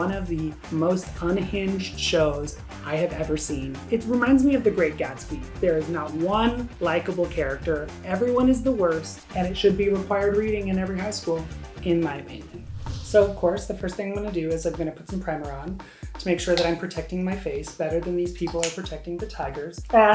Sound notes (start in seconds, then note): 12.4 whooshing